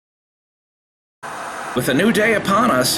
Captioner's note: white noise scratching